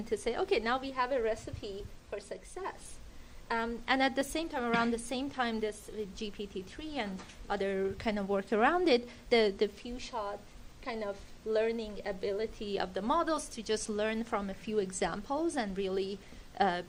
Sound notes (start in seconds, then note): none